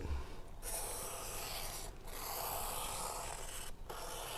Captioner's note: pencil scrapes